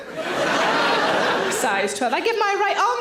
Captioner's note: audience laughs